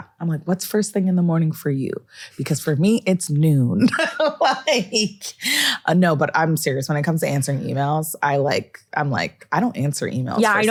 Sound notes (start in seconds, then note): 3.8 laughs